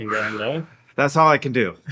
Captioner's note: sighing